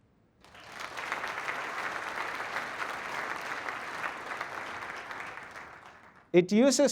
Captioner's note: applause